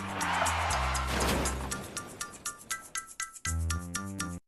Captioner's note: tires screech